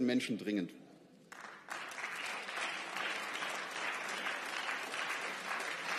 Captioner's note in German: Beifall